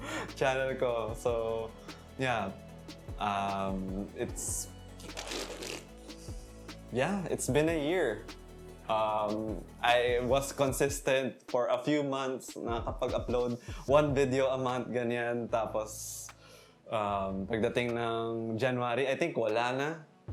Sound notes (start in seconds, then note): 5.1 fart noises